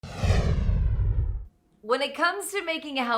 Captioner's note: logo whooshing